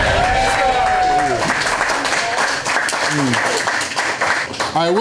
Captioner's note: crowd clapping and cheering